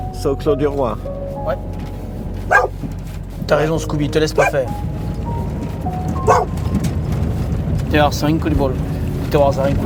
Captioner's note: Scooby-Doo barks, Sylvain scolds in French